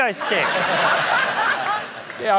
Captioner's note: laughter